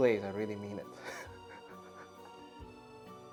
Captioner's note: chuckles